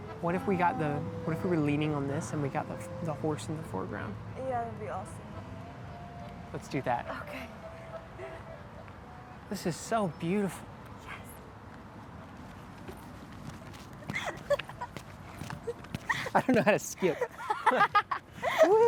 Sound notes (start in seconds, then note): 14.0 laughing